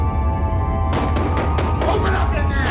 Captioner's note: knocking at door